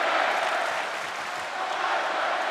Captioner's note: audience clapping